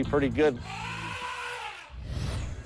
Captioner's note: elephant trumpeting